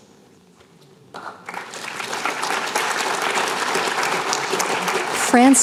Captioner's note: applause